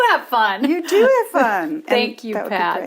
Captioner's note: laughs; pat